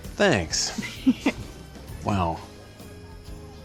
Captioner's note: giggles